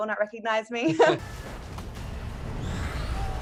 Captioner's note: chuckles; dramatic music